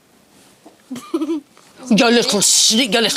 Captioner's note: giggles